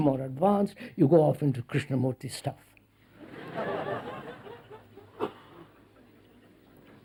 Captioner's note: laughter